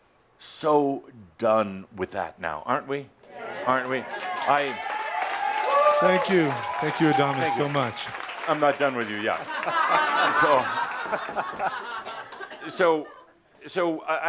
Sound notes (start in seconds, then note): 5.6 audience responds, “Yes” and applause